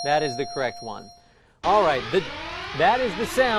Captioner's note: alarm blaring